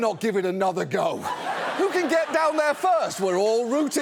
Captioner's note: audience laughs